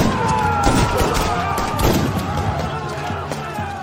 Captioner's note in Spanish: grito